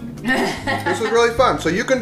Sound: woman laughs

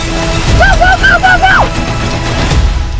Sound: Mike yelling

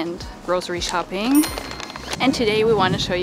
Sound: chime rings

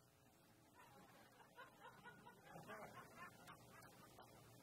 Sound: crowd laughs

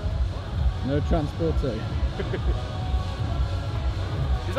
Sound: laughs

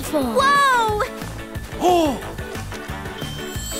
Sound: gasping

